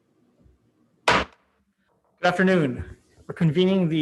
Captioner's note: banging gavel